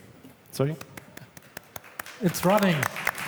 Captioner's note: claps softly